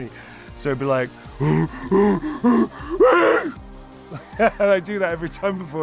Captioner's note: ape sounds